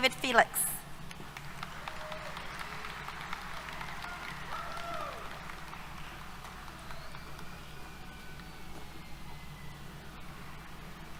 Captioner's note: applause